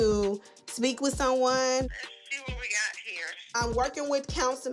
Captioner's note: on phone